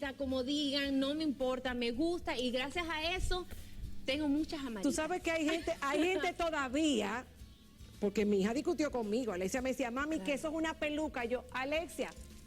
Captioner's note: speaking spanish